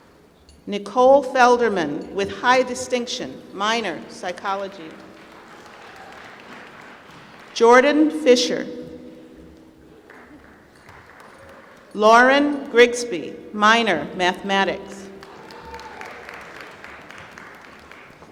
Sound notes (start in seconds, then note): 4.5 applause; 10.0 applause; 15.1 applause